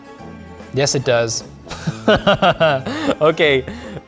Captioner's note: laughs